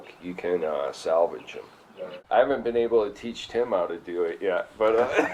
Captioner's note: laughter